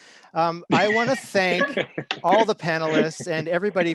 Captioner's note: chuckle